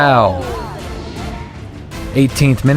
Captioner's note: crown groans